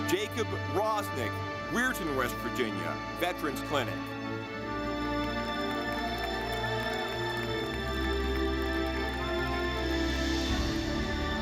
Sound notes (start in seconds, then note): 4.5 ceremonious music; 4.6 audience clapping